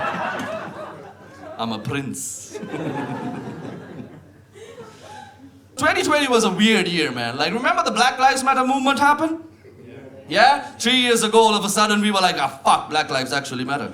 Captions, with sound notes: [Audience laughs] I'm a prince. [Audience laughs] 2020 was a weird year, man. Like, remember the Black Lives Matter movement happened? Yeah. Yeah? Three years ago, all of a sudden, we were like, "Ah, fuck, Black Lives actually matter."